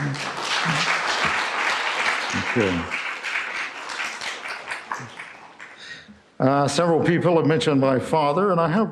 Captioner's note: applause